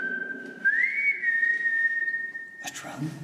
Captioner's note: whistling